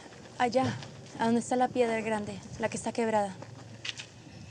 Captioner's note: spanish; speaking spanish